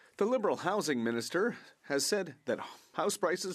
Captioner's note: speaking French